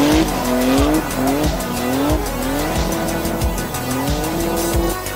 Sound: tires screeching; engines roaring

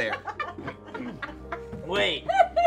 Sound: laughing

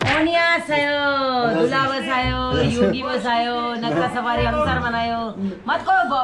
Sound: speaking in Korean

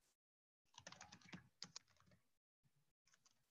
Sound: typing

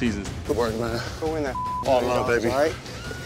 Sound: beep

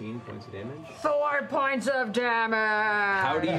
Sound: dramatically

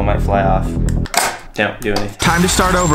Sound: machine clanks

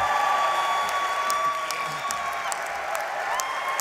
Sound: applause

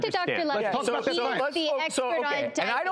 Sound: crowd

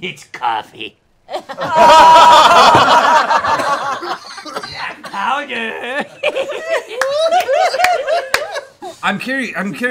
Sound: laughter; cackles; laughter

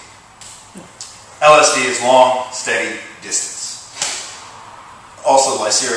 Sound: left thigh slap

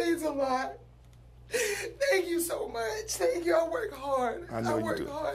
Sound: crying

